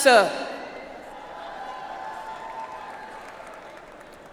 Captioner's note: audience applauds